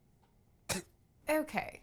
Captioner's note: cough